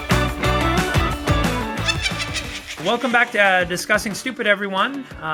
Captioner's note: witch laughing noise